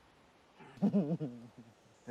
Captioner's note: laughs